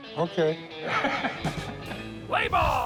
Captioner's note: chuckling